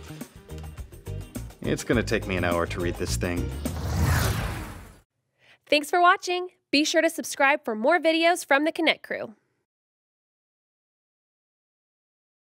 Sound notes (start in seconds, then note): 3.5 logo whooshing